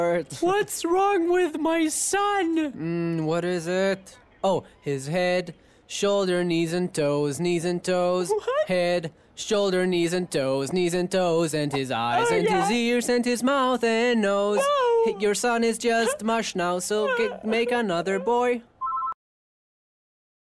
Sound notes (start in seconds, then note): 14.0 sobs; 18.8 phone ringing